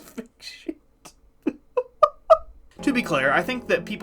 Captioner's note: laughing